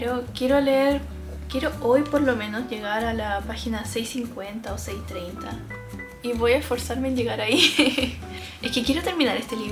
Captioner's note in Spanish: risas